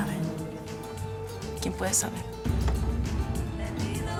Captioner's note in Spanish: Susurrra